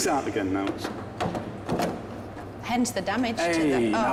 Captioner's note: metal knocking